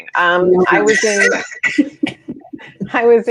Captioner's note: all laughing